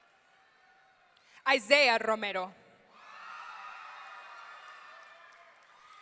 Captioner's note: audience cheering